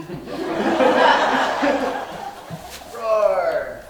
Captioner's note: audience laughing